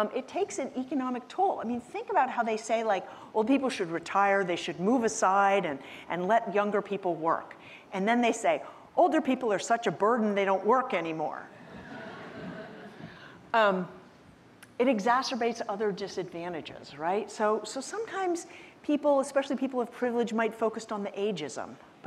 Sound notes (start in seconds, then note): 11.6 audience laughing